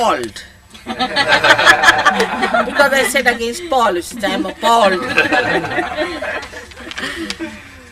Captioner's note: laughter